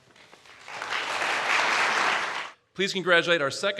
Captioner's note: applause